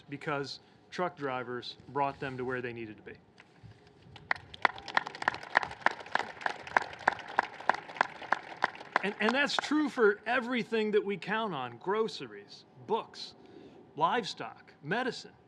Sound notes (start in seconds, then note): 4.1 applause